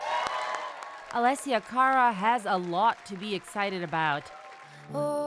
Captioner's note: applause